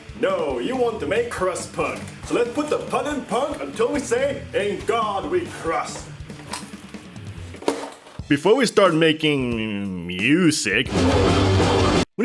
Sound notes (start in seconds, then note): 5.8 crunch